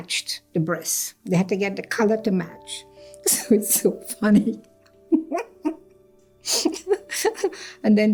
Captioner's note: laughs